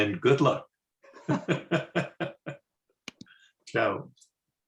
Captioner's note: laughs